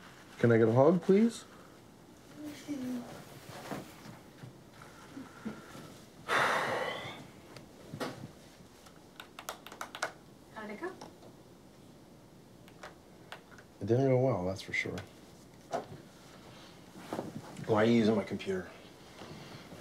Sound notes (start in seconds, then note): 6.2 sighs